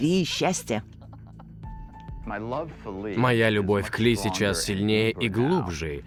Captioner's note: both laugh